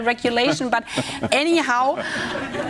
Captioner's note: laughter